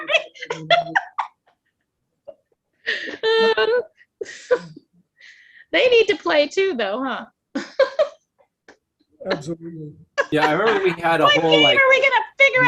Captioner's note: laughing